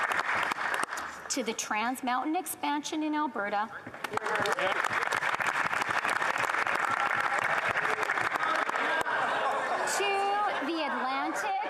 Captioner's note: applause